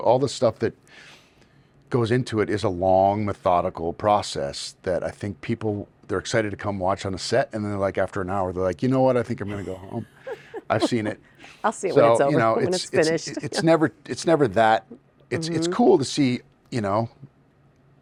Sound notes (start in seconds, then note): 9.4 laughing